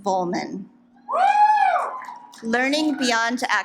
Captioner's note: audience applauds